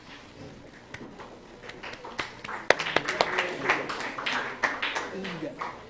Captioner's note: applause